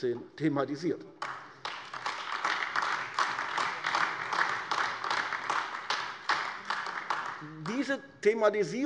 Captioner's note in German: Beifall AfD